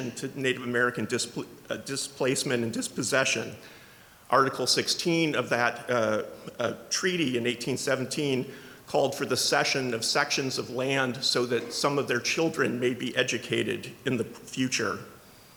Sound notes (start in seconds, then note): none